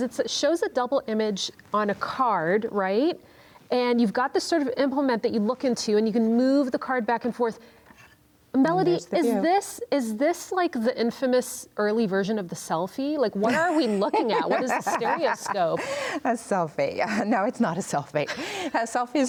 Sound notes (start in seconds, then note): 13.4 laughs